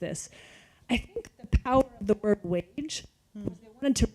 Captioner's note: microphone going in and out